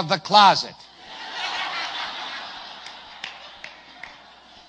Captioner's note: risate, applausi